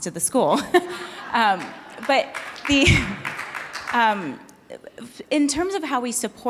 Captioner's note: audience applauding